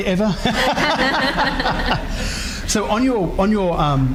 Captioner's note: laughing